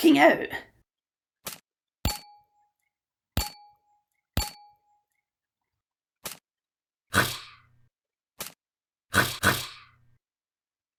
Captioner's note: gunshots and zombie noises